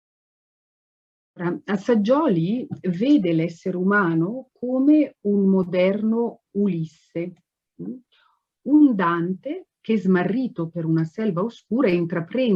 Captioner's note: speaks Italian